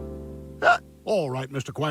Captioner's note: hiccup